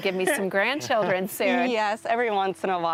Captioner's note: laughs